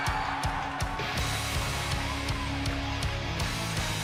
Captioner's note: cheers and applause